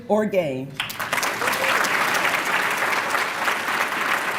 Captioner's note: applause